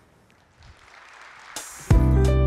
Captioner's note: applause